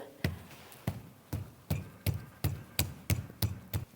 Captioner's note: fist thumping